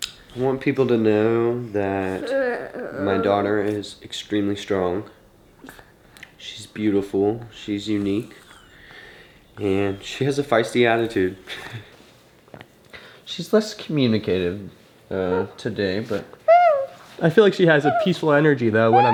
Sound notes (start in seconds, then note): 12.5 laughs; 16.4 coos